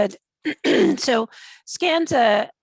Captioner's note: clears throat